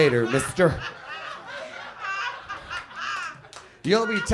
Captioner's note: audience laughs